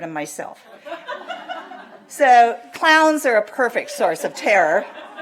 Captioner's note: laughter